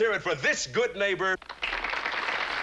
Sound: applause

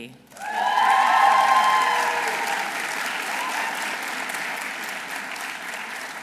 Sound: audience applauding; audience cheering

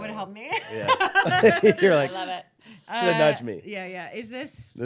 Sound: laughing

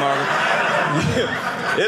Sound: audience laughing

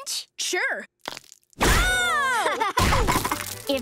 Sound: loud crash; screaming

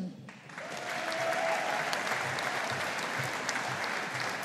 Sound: audience applauding

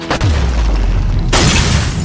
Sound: smash

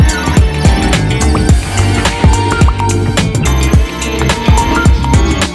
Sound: pop / Pop pop pop

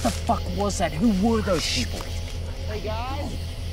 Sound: whispering

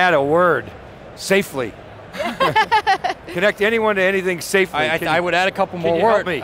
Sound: laughs

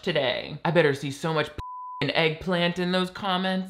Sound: beeps

